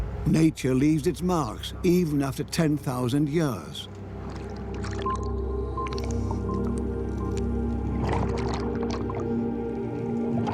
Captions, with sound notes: Nature leaves its marks, even after 10,000 years. (beeping sound) (underwater bubbling)